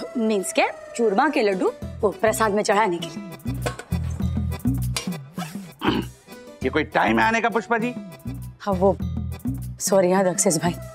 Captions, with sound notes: I mean 'churma laddoos' for the offering. [amusing music] [straining] Ms. Pushpa, you're so late! Actually... I'm sorry, Mr. Dakshesh Joshipura.